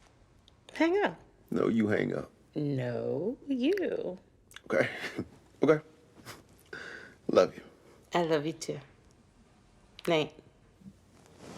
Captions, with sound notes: - Hang up! - No, you hang up. - No, you. - Okay, (laughs) okay. Love you. - I love you too. Night.